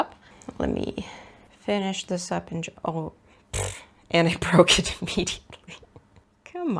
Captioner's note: laughs